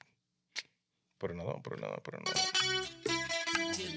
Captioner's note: speaking In Foreign Language